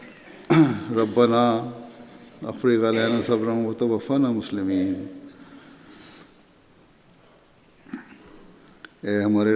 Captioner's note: Arabic